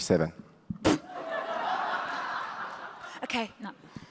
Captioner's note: audience laughs